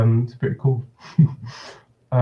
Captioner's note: chuckles